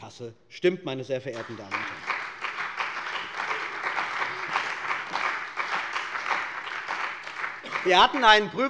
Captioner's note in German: Beifall bei der CDU und dem BÜNDNIS 90/DIE GRÜNEN